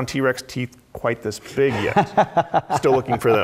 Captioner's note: laugh